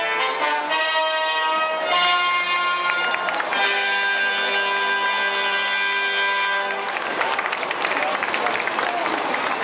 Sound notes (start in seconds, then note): 2.7 applause